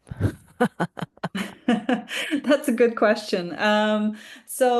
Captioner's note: laughs